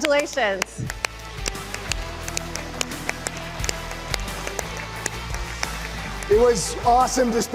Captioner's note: applause